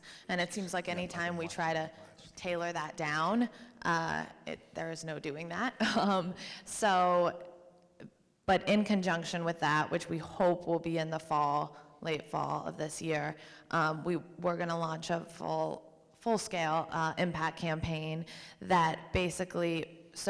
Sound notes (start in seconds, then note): 7.4 chuckles